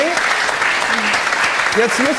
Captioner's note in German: Applaus